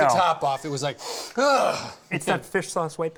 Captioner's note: sighs; sniffs